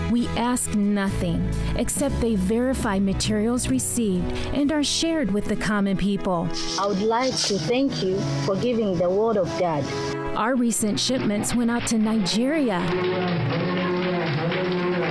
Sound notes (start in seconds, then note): 12.6 applause